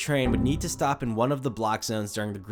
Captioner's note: Windows error sound